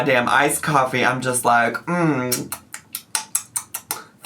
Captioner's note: smacks lips; hums